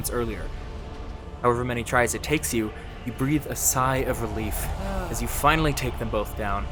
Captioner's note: sigh